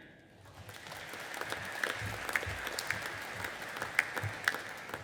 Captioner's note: audience applauding